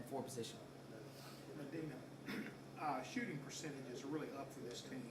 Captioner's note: coughs